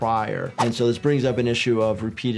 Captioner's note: wind whipping